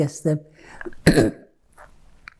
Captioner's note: clears throat